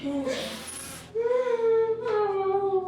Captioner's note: sobbing